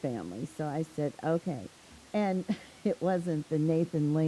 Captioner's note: chuckles